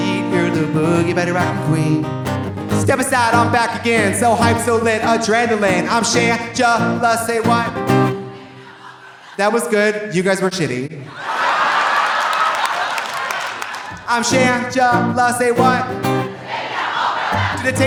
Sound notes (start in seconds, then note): 11.1 audience cheering; 11.2 audience applauding